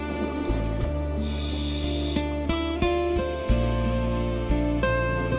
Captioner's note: sound of a breathing regulator working